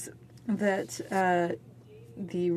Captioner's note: speaking french